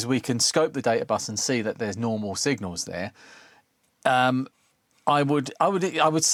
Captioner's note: none